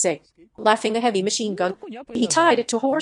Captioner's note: laughing